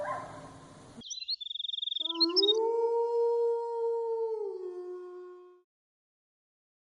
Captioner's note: bird chirping; animal howling